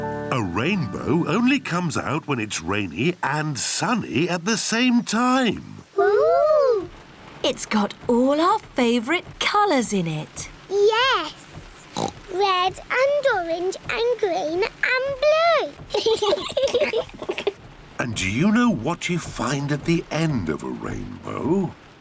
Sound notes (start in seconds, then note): 11.9 oinks; 15.9 both laugh